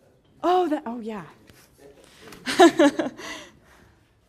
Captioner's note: laugh